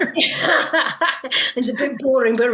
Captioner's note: both laugh